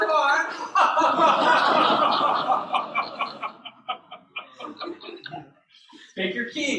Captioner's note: laughter